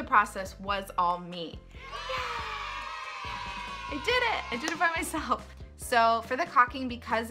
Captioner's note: kids cheering